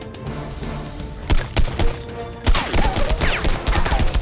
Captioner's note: gun firing